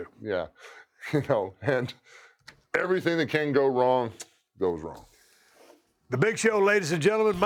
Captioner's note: laugh